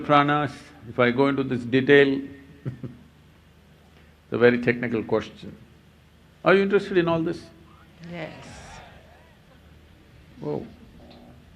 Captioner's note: laughs